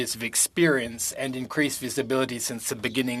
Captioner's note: speaking French